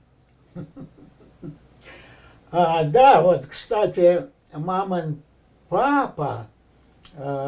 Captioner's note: laughing